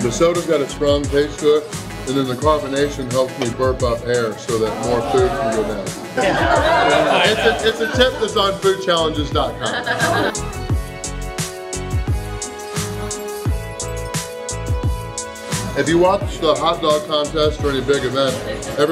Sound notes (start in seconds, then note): 9.6 giggles; 11.2 soft music